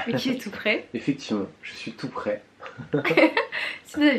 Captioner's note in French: rires